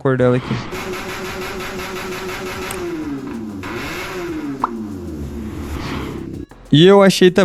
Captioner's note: motorcycle snoring